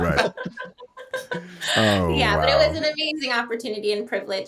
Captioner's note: all laughing